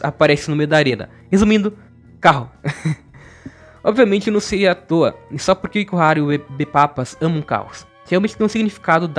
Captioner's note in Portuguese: risadas